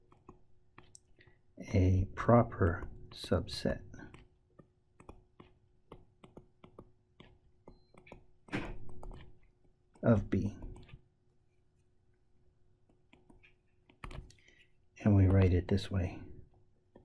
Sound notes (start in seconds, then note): 3.4 tapping Sounds; 11.4 tapping Sounds; 16.4 tapping Sounds